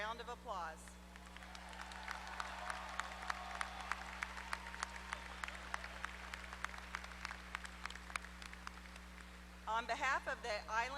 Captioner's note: applause